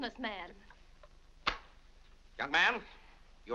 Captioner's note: wallet slaps shut